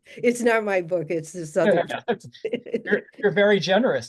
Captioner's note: laughter